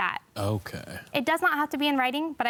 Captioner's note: tut